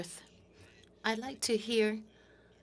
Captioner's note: speaking French